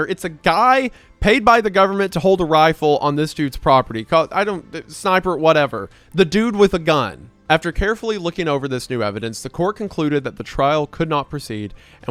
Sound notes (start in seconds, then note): 4.1 stammers